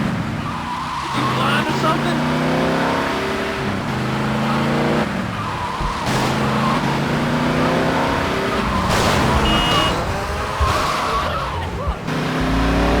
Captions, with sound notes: Did you fly into something? (sirens) What the fuck?